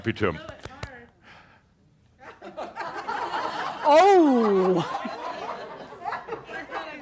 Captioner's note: some chuckles